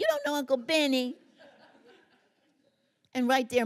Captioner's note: laughter